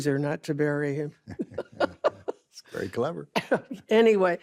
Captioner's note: laughs